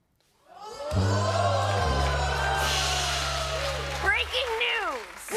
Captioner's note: cheers and applause